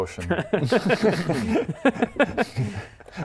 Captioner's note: reckless laugh